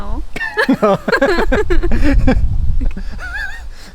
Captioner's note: laughs